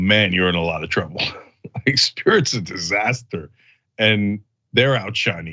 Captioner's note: laugh